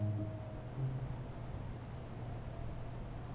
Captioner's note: music fades; wind blows